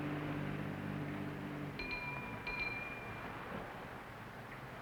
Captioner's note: bell dings